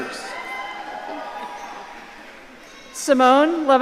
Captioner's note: audience cheering